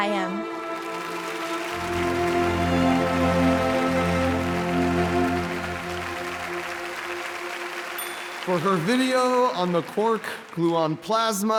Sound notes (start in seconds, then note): 0.2 inspiring music; 4.4 audience applauding